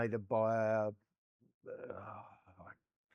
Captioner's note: groans